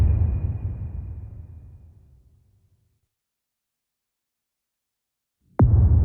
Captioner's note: dramatic sound